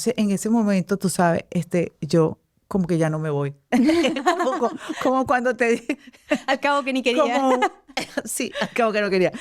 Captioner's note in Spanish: risas